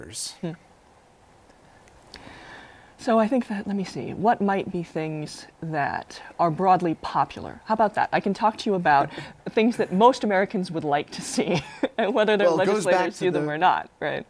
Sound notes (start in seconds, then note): 9.3 laughter; 11.4 laughter